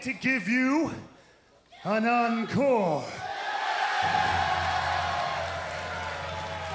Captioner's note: crowd cheering